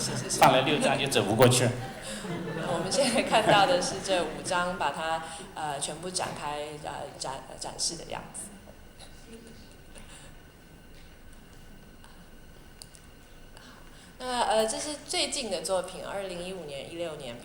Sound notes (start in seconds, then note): 1.8 laughter; 3.1 Mandarin